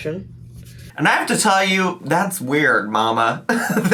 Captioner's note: laughs